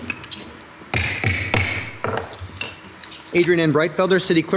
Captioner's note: gravel tapping